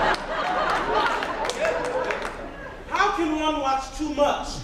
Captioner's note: audience laughs